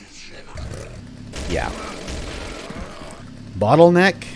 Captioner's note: more motorized rampage